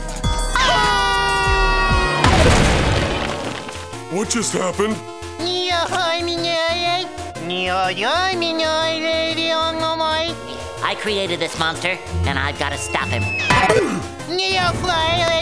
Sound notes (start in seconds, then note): 0.5 screaming; 5.0 DoodleBob talking gibberish; 13.8 DoodleBob talking gibberish